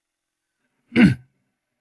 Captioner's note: cough